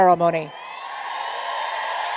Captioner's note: cheers and applause